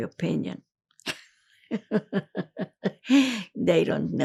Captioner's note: laughing